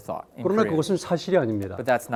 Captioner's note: speaking in Korean